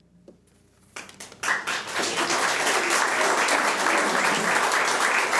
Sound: audience applauds

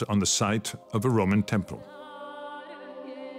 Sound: speaks French

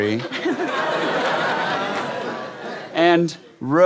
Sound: giggles

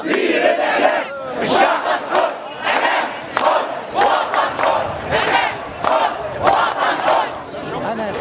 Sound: chants

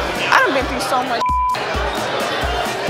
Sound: beep

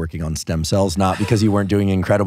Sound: laughing

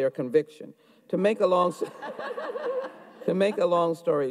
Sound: audience laughs

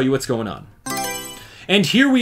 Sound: Mario Selection Sound

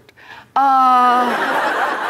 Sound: laughter

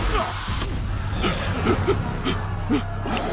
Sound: growl

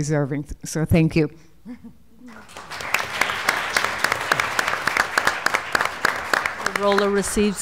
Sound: applause

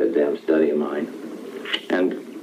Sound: kissing

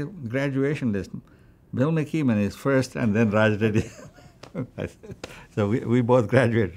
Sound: laughs

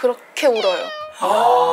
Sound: A crying girl

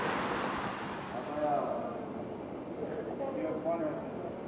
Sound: airport chatter

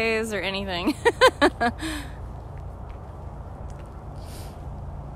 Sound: laughter

